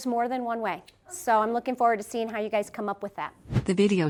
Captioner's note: whoosh